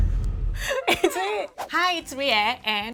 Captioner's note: laughs